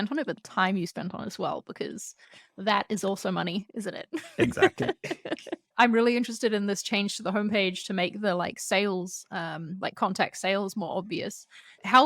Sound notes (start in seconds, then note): 4.2 laughter